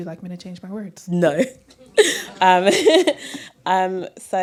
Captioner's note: laughter